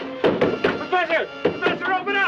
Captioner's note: knocking on door